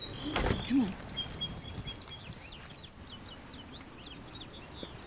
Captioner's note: birds chirping